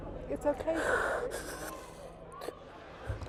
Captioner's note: sniffling